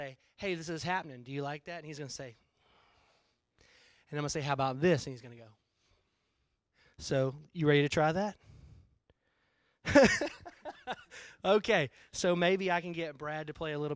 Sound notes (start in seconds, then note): 9.8 breaks into laughter